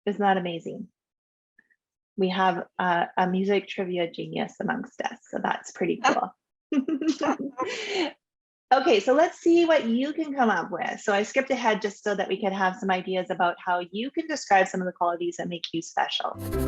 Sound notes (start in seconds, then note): 6.9 laughing